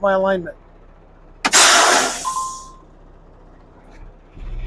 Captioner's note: air brakes releasing